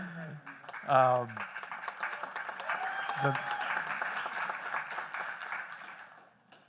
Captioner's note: applause